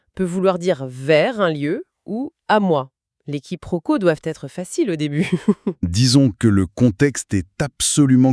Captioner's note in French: rire